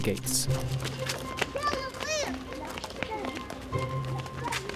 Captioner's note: children shouting